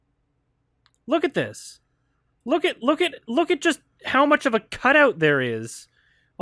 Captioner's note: stammers a little